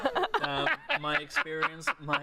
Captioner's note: laughter